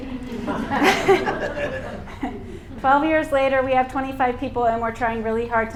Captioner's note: laughter